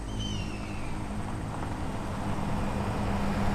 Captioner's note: birds cawing